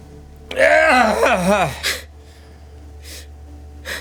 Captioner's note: groaning